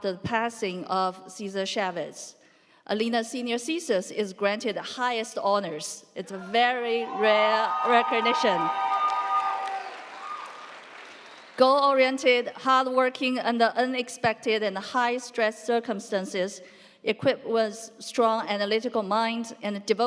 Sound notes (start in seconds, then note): 6.8 audience cheering; 8.4 audience applauding; 9.0 audience cheering